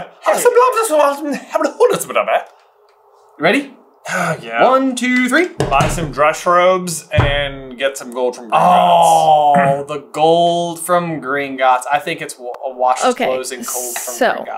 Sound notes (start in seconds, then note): 4.0 sigh